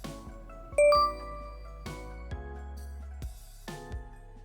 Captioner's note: digital beeping